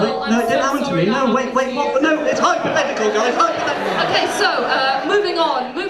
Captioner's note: sympathetic noises